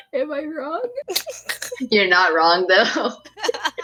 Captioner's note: giggles